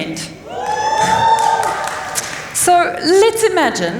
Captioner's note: cheers